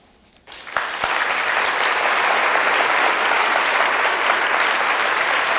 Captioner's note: audience applauds